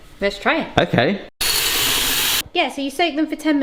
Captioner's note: water whooshes